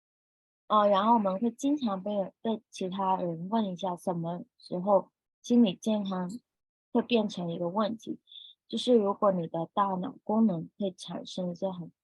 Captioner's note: speaking chinese